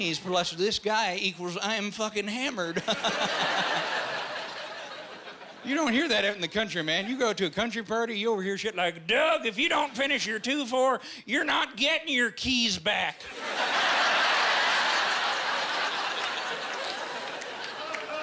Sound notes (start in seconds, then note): 2.8 laughing; 13.2 laughing